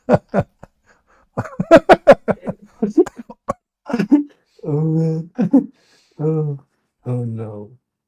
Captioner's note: Ketawa